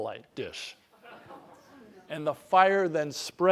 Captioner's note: laugh